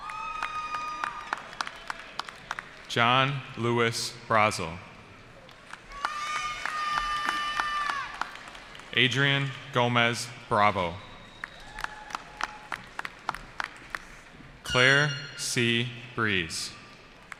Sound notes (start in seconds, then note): 0.0 cheering; 5.8 cheering; 11.2 applause; 17.2 applause